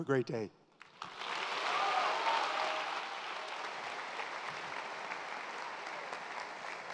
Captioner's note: audience applauds; audience cheers